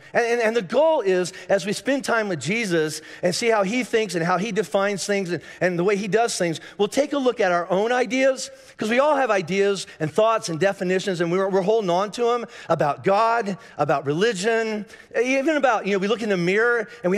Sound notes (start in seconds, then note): none